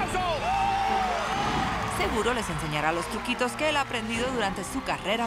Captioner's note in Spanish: gritos y exclamaciones